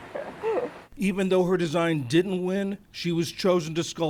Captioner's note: voice-over